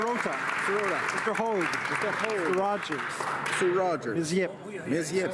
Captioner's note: applause